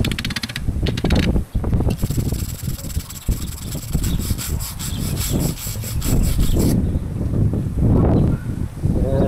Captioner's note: wind blowing